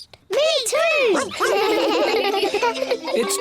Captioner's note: giggle